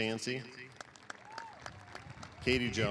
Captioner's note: applause